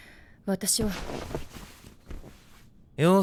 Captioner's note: clothes rustling